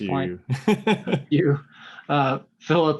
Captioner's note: laughing